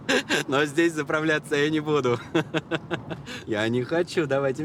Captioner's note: laughs; laughs